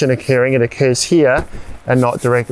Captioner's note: tent crumpling